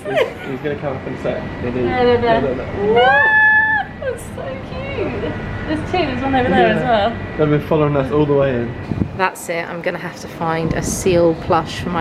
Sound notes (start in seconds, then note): 2.5 squeals